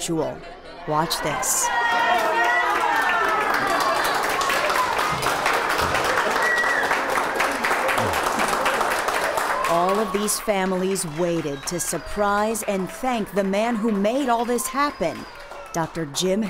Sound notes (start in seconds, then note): 6.2 applause